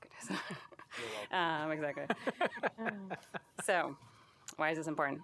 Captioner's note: laughter